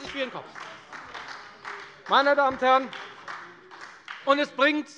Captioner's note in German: Beifall bei der FDP und der SPD